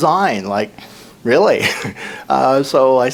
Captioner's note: laughs